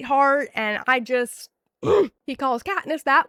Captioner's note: groan